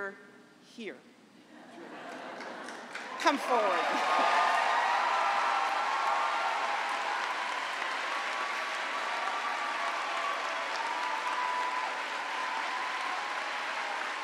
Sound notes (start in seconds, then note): 1.5 laughter; 11.5 cheering and applause